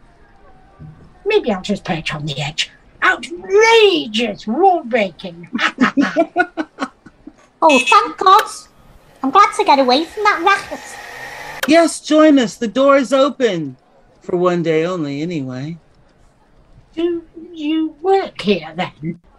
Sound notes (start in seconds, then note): 5.4 laughs; 8.9 power wheelchair sound